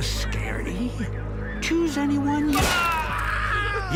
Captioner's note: explosion, person screams